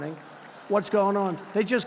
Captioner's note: laughter